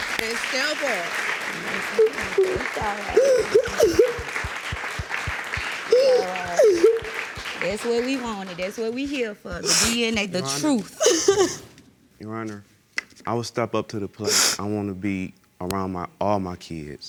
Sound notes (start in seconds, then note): 3.9 crying